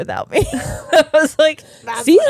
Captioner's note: giggling